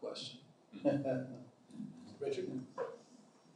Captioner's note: chuckline